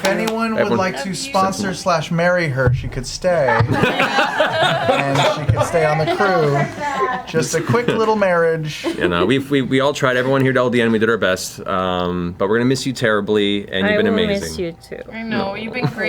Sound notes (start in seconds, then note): 3.5 all laugh